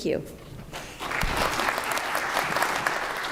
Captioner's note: applause